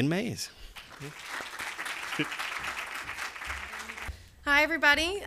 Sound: applause

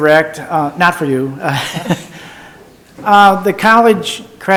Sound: laughs

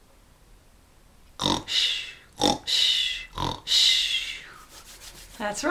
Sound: snoring sounds

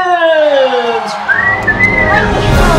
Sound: whistling; victorious music

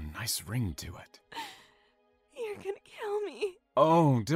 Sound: sobs

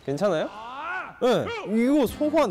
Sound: confident

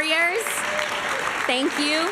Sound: applause

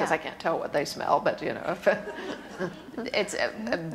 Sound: laughs

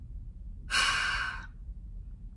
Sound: bigger sigh

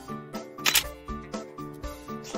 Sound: camera click

